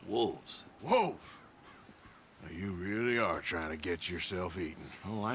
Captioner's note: surprised